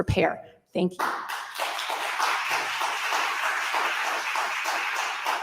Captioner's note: audience applauding